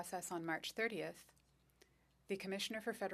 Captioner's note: speaking French